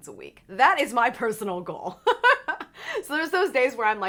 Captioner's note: laughs